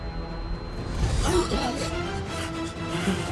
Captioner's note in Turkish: İnliyor; Hızlı Nefes Alıyor